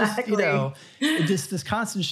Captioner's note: laughs